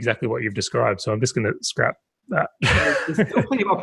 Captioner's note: laughs